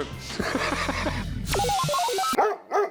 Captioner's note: robot noises; laughs; dog barking